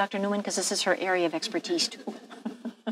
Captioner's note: laughing